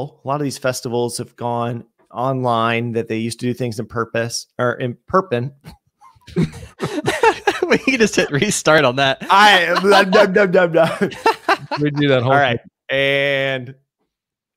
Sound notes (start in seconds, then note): 6.1 everyone laughs